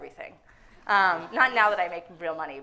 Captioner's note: audience laughing